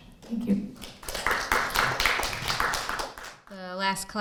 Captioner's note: crowd claps